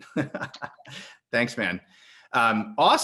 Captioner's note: laughs